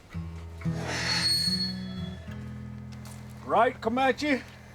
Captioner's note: gate squeaks loudly